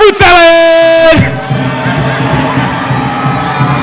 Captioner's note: cheering